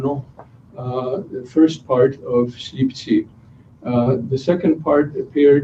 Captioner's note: non-english speech